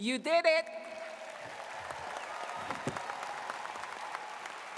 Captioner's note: audience claps